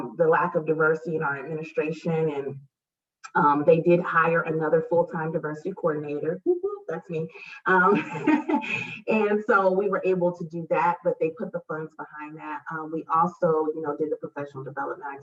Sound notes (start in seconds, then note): 7.9 laughs